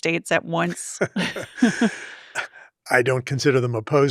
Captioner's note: both laughing